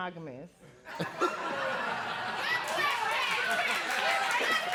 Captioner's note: laughing